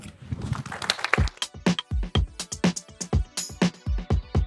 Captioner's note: applause